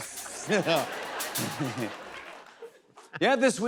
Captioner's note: laughter